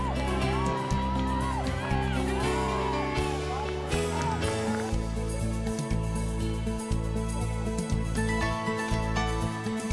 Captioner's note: crowd cheering